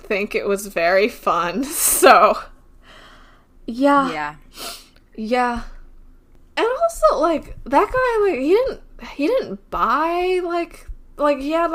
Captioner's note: laughs